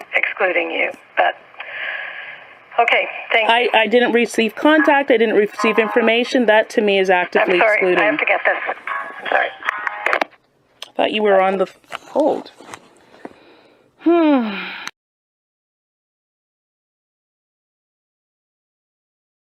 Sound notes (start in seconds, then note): 9.7 click. phone hangs up